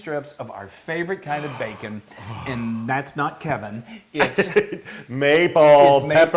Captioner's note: laugh